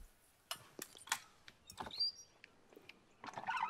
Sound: door opens

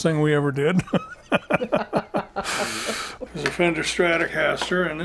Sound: both laugh

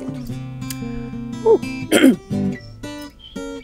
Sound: clears throat

